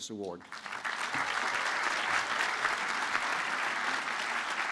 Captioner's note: applause